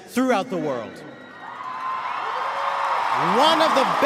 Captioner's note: crowd cheering